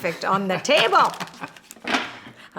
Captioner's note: laughs